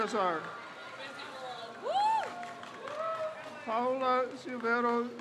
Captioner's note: crowd cheers